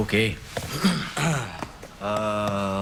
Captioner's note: both clearing throats